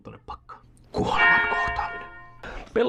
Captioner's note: church bell rings